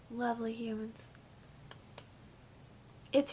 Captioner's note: claps